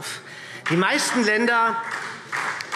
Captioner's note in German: Beifall SPD